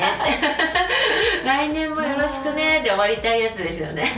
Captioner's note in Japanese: 息をのむ音